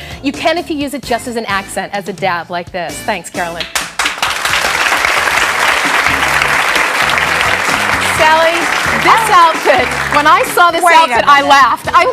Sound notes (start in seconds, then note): 3.6 audience clapping